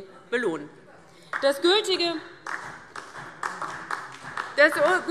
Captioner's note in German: Beifall DIE LINKE und SPD